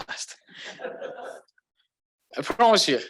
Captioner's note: laughter